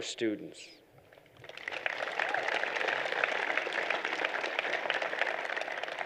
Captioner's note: applause